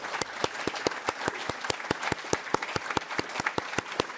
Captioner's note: audience applauds